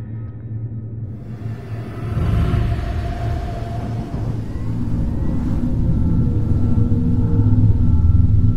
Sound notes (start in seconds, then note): 1.2 machine sound